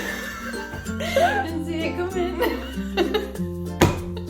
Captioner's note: laughs